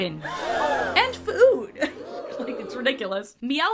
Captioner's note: crowd gasp sfx; second crowd gasp sfx